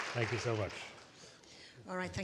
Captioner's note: applause